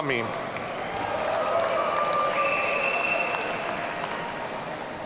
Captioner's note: audience cheering